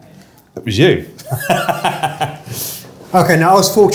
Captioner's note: laughing